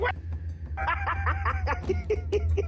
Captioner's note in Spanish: Risas